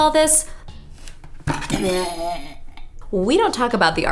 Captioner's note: vomiting